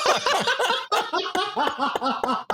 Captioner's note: laughing